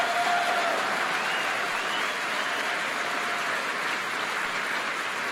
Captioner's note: applause